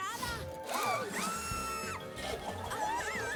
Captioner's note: shriek